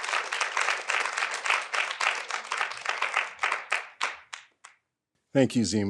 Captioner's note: audience continue applauding